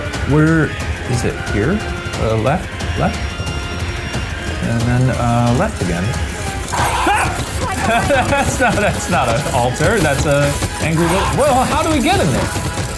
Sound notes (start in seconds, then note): 6.2 chuckles; 6.7 shouts